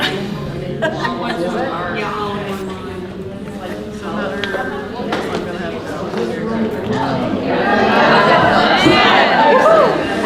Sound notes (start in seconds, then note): 0.0 laughing; 4.1 participants talking at once